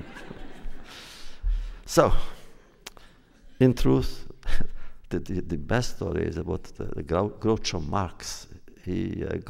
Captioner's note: laughter; laughs